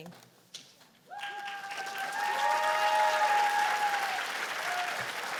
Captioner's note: cheers and applause